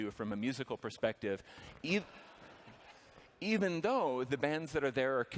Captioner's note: laughter